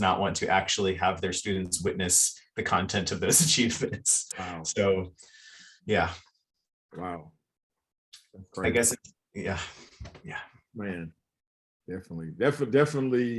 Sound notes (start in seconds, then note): 5.9 chuckles